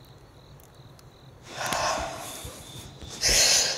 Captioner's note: Exhales; Deep breathing